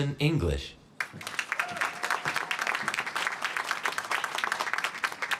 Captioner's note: applause